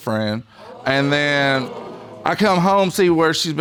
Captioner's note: audience exclaiming